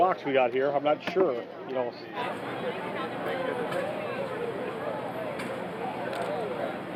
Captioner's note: crowd sounds